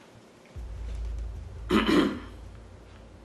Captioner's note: cough